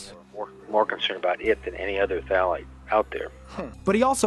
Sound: man over telephone

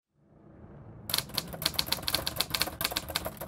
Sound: typewriter clacks

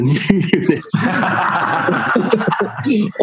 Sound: laughing

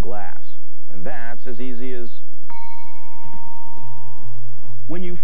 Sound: glass rings

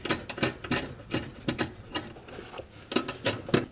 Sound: nuts turning

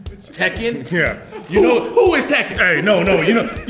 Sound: laugh

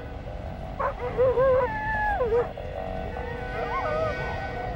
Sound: dogs barking

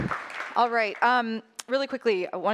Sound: applause

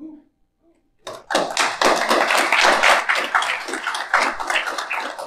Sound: audience claps

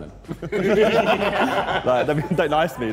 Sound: Sidemen laughing

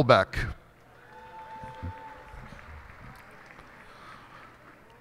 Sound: cheers and applause

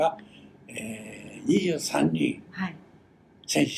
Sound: foreign language

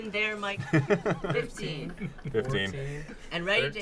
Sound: laughing

